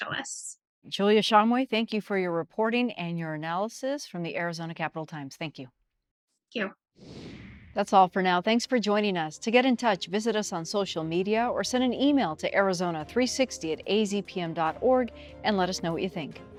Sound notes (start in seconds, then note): 7.0 screen whooshes out; 10.0 upbeat music